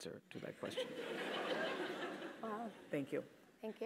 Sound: laugh

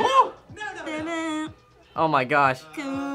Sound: hums

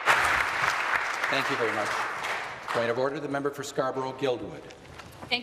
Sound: applause

